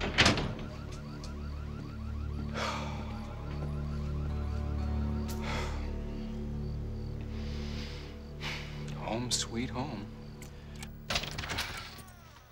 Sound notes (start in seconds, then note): 0.0 <i> alarm blares nearby</i>; 2.4 <i> sighs</i>